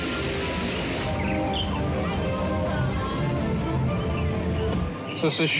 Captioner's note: birds chirping